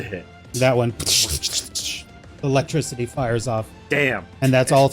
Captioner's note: electricity sound